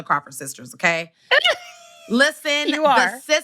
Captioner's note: laughs